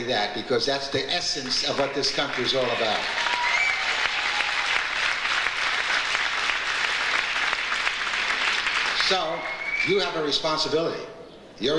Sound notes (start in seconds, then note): 3.1 audience cheers; 7.5 audience applauds